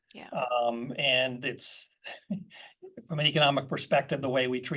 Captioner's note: laugh